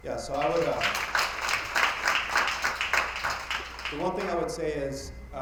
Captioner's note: attendees applauding